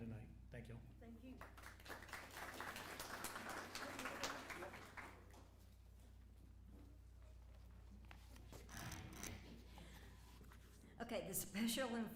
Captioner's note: applause